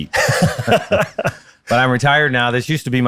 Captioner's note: laughing